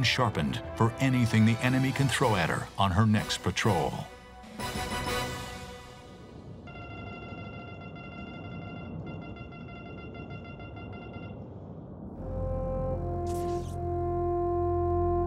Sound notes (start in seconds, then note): 6.6 beeping; 12.1 somber music